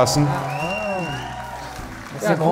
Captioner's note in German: Jubel, Applaus